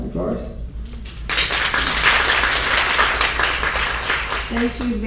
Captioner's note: applause